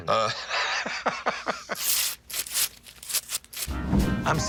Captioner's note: laughter; tearing sounds